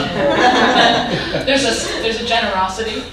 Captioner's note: audience laughing